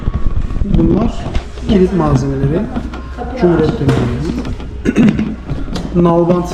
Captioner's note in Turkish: boğazını temizler